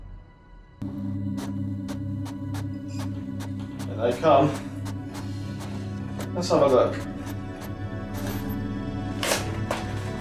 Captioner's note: printing sounds